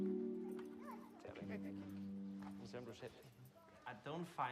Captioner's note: speaking foreign language